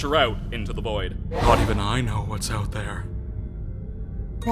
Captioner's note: spooky voice